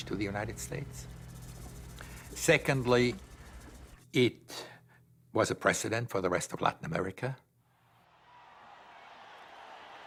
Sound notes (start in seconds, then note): 7.7 crowd cheering